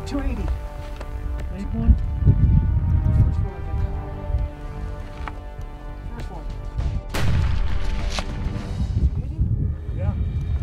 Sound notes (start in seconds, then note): 7.1 gunshot